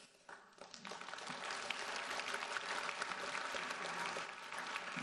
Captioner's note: audience applauds